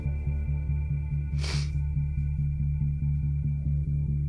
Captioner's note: sniffs